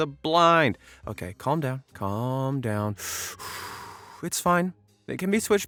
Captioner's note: puffing